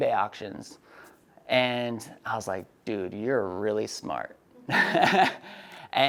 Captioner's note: laughs